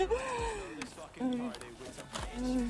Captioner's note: ASMR Mukbang Noises